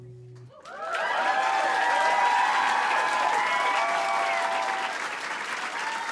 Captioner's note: applause and cheering